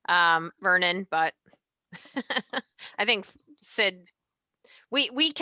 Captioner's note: laughs